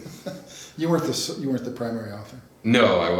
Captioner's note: laughs